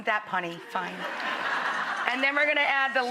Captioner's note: audience laughs